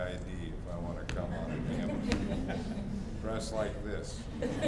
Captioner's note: audience laughs